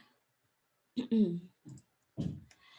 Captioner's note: clears throat